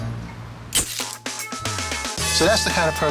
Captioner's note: camera clicks